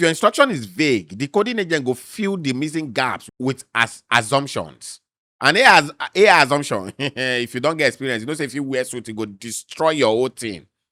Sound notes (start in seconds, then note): 6.8 laughs